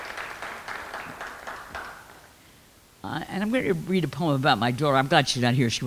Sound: clapping

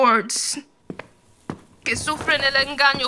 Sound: footsteps

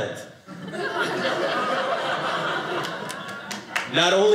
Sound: audience laughing

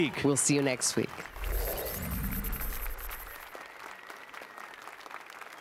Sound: applause and cheers

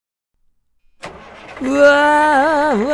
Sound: vehicle sounds

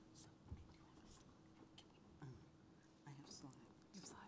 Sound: whispering

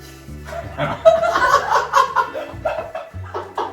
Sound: laughing

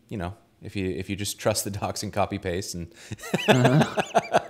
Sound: laughs

